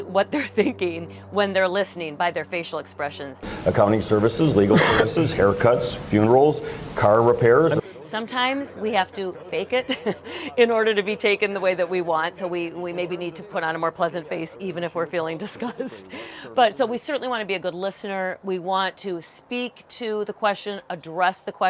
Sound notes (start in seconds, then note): 9.7 laughs